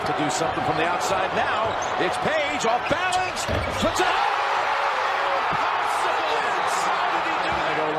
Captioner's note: cheering